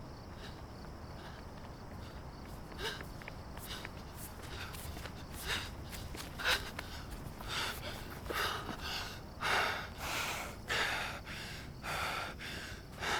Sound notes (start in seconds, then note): 0.1 insects chirping; 5.7 Brandy breathing heavily; 5.7 insects chirping